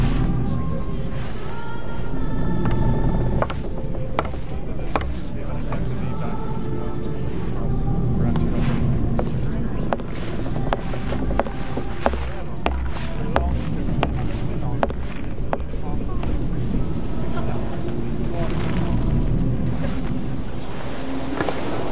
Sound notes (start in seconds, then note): 3.4 passengers chattering